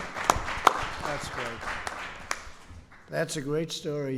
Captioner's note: applause